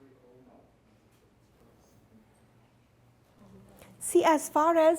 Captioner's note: students chattering quietly